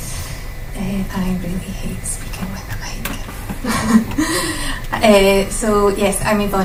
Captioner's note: laughs